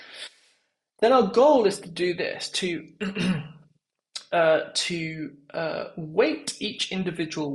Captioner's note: cough